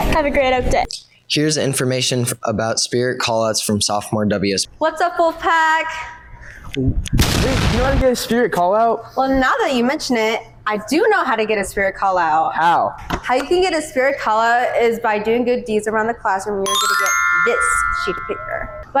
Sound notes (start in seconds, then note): 7.2 explosion sound effect; 16.6 sparkling sound effect